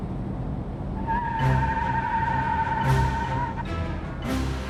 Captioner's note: tires squealing